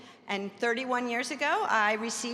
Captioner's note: none